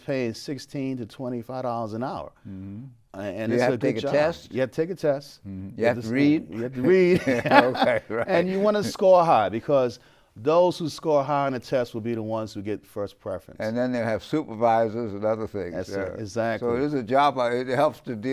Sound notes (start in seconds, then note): 6.6 laughs